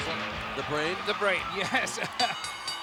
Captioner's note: laugh